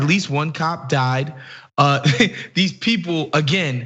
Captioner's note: laugh